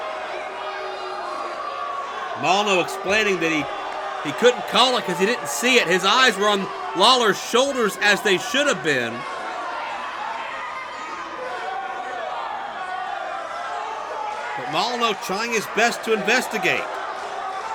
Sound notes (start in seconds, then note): 9.8 crowd yells